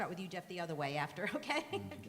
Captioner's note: laughter